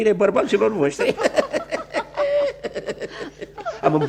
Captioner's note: all three laugh